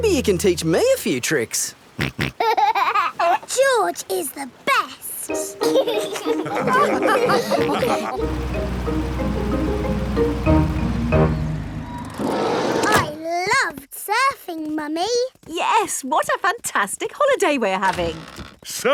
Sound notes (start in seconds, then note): 2.0 snorts and laughs; 5.5 all laugh